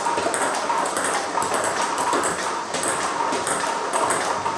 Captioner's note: ball ping pong hitting continues